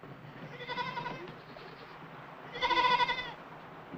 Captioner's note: goat bleating